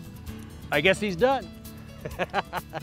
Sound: laughing

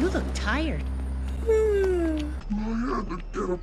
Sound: Arthur yawns

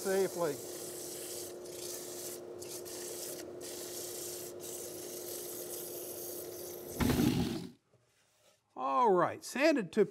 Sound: sanding

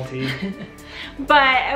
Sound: giggles

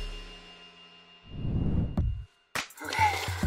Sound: whoosh

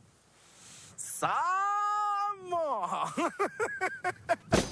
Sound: laughing

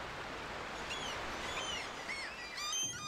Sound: seagulls

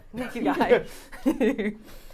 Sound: Safiya laughing; laughing

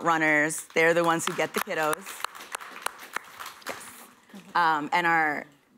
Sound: applause

